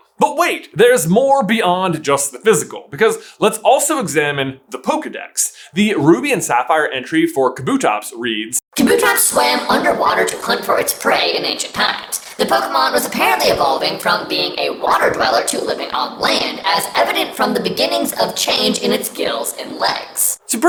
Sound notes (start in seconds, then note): 8.8 electronic roboty voice